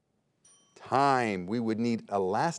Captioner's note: bell dings